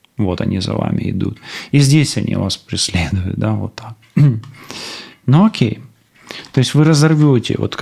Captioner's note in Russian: откашливается; фыркает